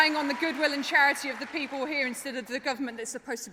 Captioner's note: applause